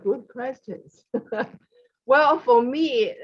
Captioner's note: laughs